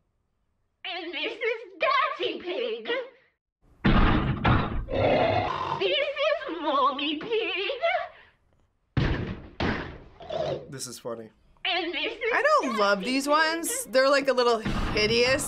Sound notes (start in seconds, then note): 0.1 distorted voice; 4.9 snorting; 6.0 distorted voice; 10.2 snorting